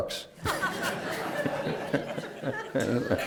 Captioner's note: laughter